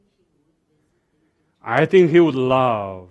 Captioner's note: audience member talking in the background